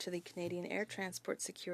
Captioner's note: speaking French